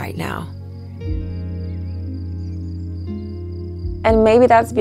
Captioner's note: crickets chirping